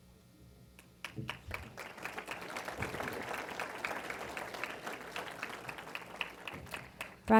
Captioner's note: applause